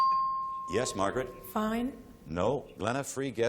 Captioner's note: ping